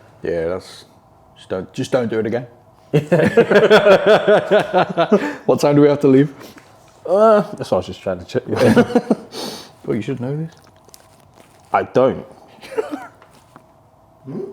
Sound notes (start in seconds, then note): 2.9 both laugh; 12.5 chuckles